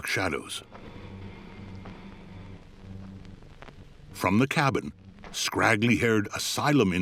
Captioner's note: slow, soft footfalls; gravel crunching underfoot